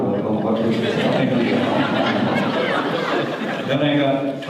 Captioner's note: audience laughter